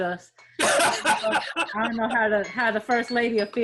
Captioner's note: laughing